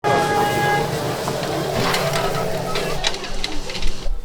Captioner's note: background city noise